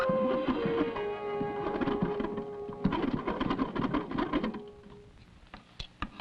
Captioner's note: phone dialing